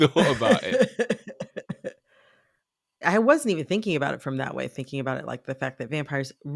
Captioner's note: laughter